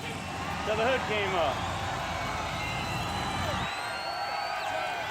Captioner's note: crowd cheering